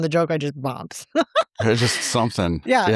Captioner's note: laughs